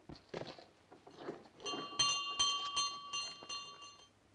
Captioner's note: bell rings